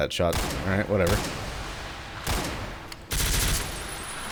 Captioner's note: Guns firing, more Gasbag explosions